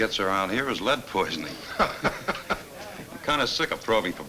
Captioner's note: Bill chuckles